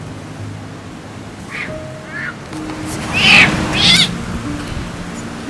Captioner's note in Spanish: Aullidos de gato